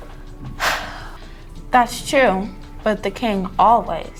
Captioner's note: sighing